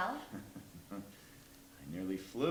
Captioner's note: chuckles